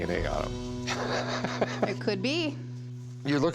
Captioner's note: laughing